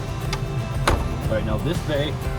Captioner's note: door slams